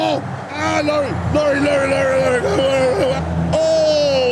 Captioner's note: wails